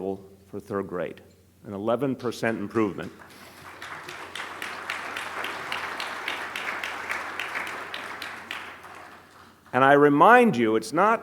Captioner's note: applause